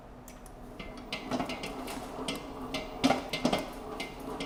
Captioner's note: mixer clanking